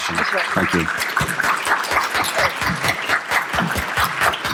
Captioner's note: applause